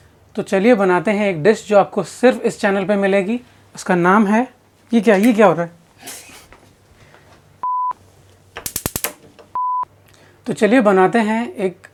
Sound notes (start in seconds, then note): 8.5 stove Clicks